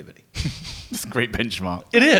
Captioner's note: laughs